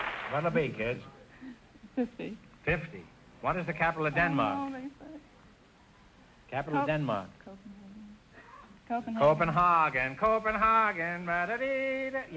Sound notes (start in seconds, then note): 0.0 triumphant music & applause; 7.1 contestants whispering